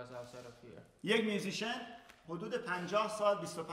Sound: speaking in farsi

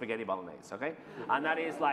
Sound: laughter

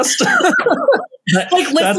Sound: both laugh

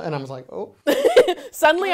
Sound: laughs

